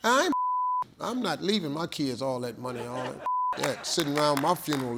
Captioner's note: beep; beep